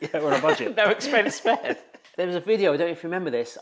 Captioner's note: host laughs; laughs